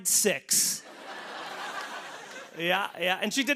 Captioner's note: laughter